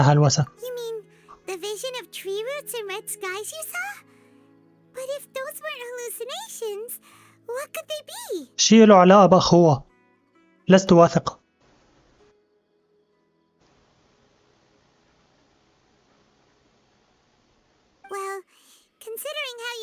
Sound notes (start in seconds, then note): 8.1 silence